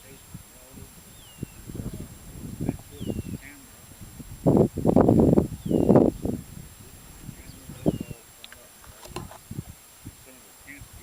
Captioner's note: wind Blowing